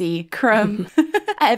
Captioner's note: laughing